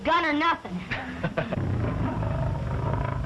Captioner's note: laughs